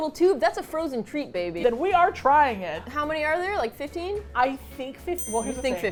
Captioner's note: ding